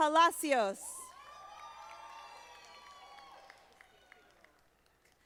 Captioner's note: audience applauding